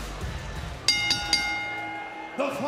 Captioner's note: bell rings